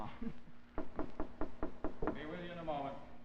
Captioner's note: sound of knocking on door